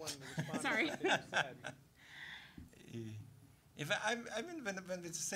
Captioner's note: laughing